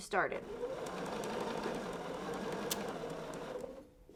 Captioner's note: machine whirring